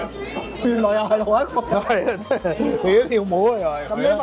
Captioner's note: haha